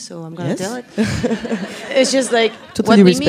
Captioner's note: laughs